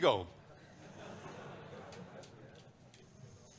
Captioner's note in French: rires